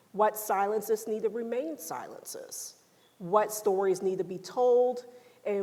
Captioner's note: none